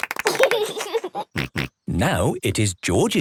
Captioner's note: laughs